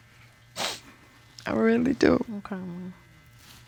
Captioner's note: sniffles